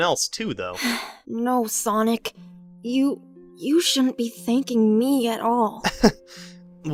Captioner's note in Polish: Wzdycha